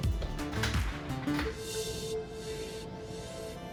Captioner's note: door clicking